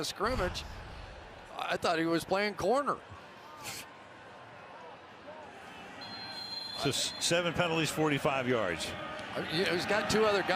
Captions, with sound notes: There's the line of scrimmage. I thought he was playing corner. [whistle] So 7 penalties, 45 yards.